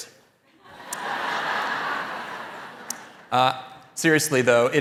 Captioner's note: audience laughing